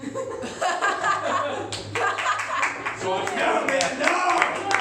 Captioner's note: laughter